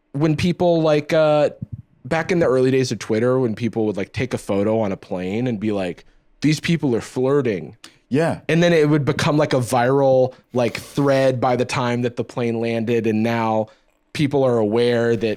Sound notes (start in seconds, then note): none